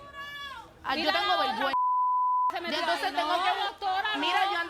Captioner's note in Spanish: Bip